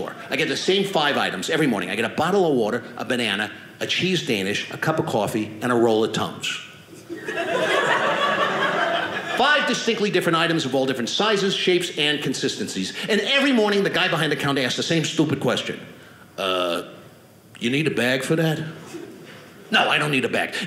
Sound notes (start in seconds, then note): 7.0 audience laughing